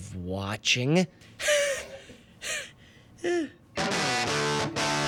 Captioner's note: laughs; fast rock music